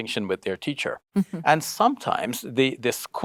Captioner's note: chuckles